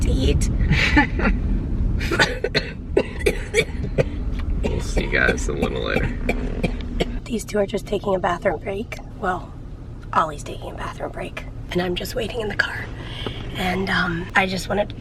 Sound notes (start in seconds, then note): 0.6 chuckles; 2.0 coughing